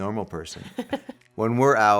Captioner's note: laughs